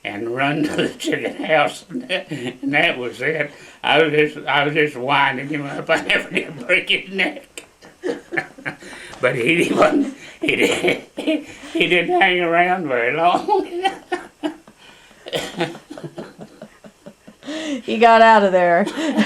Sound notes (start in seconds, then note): 5.2 laughs; 10.6 laughter